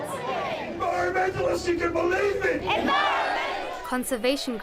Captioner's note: crowd chanting